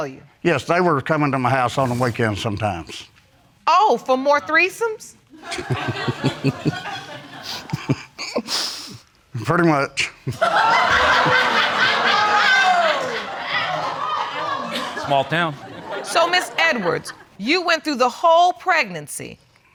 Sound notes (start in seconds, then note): 5.4 audience laughing; 5.4 chuckling; 10.3 audience laughs